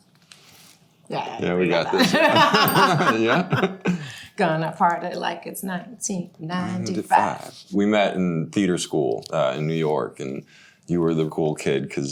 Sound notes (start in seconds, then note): 1.9 both laughing